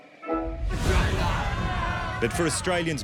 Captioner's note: screams